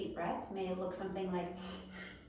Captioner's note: breathe